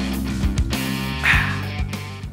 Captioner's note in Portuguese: exclamação de refrescância